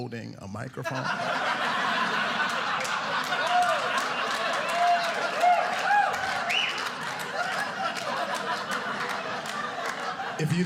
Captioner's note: audience cheering